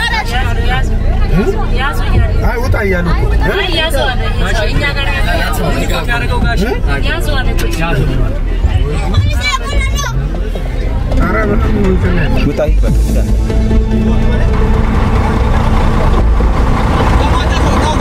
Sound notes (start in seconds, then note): 4.6 crowd noise